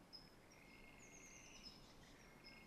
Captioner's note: bird chirp